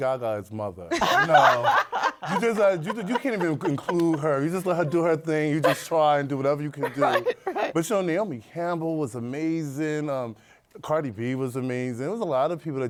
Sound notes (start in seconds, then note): 5.2 laughter